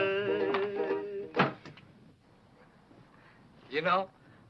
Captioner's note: window slams